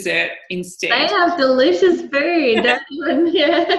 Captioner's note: laughing; microphone cutting out